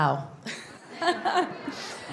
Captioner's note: laughs